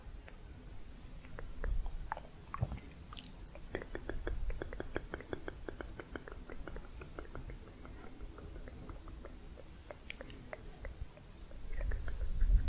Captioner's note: layered tongue clicking